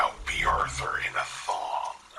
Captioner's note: none